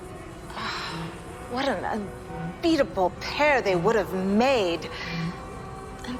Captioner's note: sighs